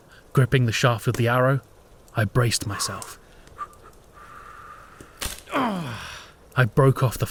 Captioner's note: shallow breaths and a grunt